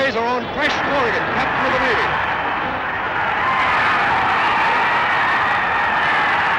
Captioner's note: audience roars